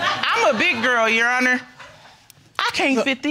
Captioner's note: audience laughing